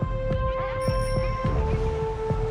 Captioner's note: bicycle bell rings